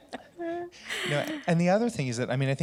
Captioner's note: laughter